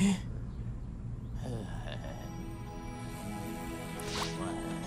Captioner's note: MechaBot groans, keeps snoring